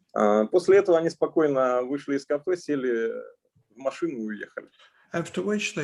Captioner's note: speaking Russian language